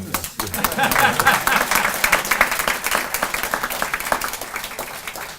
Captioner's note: cheering and laughing